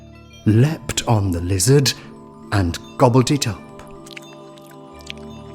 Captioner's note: slurp